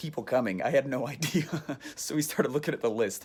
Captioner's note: laughs